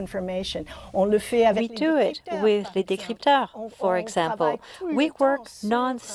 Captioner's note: non-english